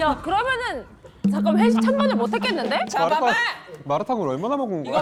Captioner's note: sound effect of not having money for company dinners